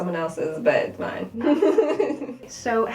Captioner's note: laughter